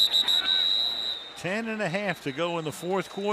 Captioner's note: whistle blowing